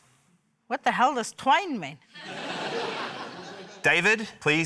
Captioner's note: laughter